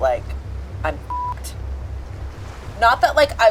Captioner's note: beep